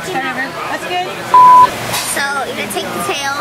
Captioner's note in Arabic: زمارة